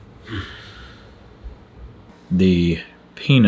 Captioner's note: sigh